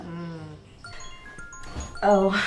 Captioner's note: phone rings